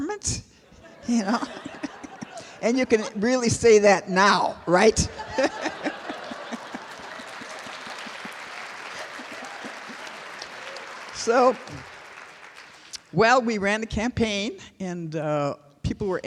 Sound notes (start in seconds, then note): 8.7 laughter; 10.7 applause